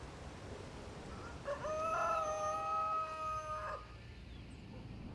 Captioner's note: rooster crowing